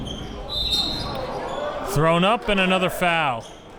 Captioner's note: whistle blows